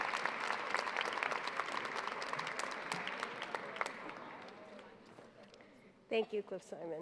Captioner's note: applause